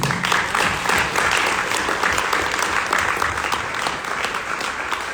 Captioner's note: audience applauding